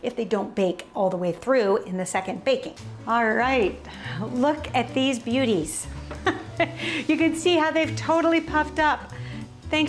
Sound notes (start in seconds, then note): 6.0 upbeat music; 6.0 laughs